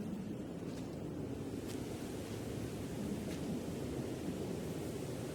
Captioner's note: wind whistling continues